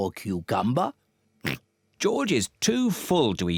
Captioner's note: oinks